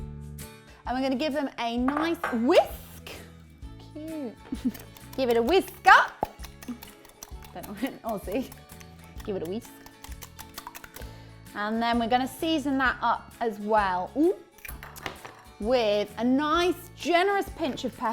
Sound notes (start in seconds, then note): 7.8 in attempted Aussi accent